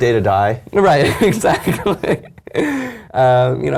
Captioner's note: laugh